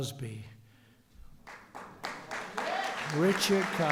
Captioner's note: applause